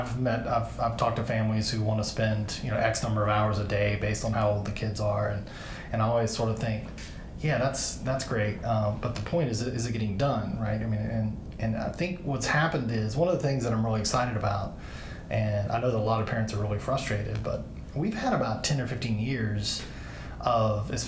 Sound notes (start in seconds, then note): none